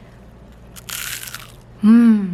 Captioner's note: mega crunch